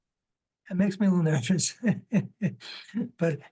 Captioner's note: laughs